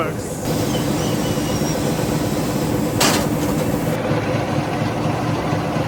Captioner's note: machine whirring and clanking